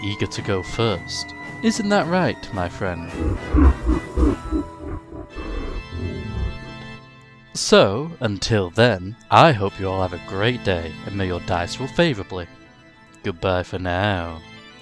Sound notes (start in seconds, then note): 3.0 teaserLaugh.MP3